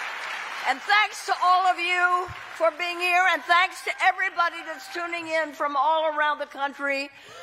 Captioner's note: cheering